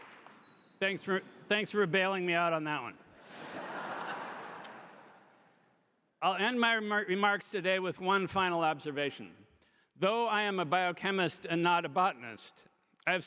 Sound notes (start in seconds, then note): 3.2 audience laughing